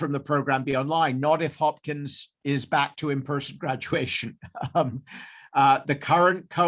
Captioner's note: chuckles